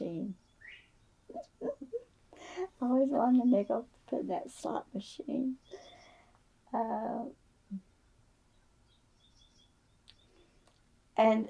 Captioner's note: laughs